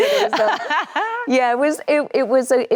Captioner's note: Anne laughs cheerfully